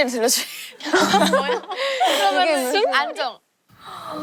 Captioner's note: very breathy sounds incoming